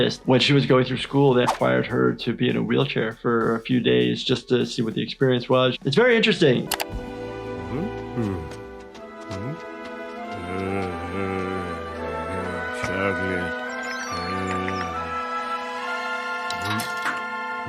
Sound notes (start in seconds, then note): 10.8 humming hungrily